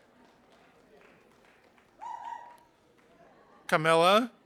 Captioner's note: audience applauding